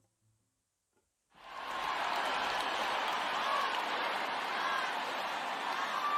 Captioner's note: applause👏🏻